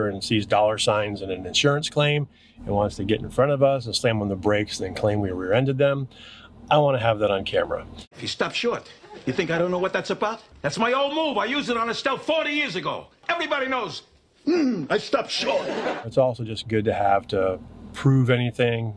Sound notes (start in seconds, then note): 14.5 grunts; 15.3 audience laughs